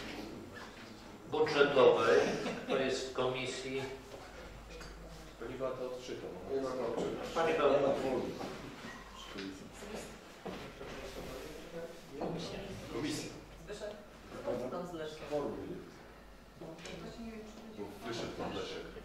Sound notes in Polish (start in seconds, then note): 3.9 Rozmowy w tle